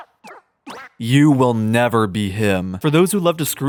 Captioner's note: quack